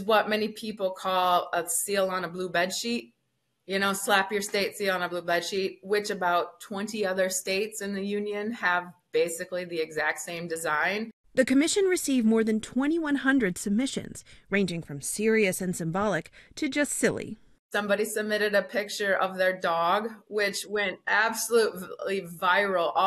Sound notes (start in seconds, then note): 11.6 voice-over